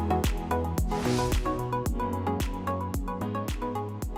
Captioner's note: air whooshes